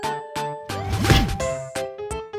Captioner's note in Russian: шлепок